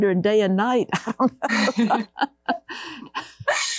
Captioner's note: laughter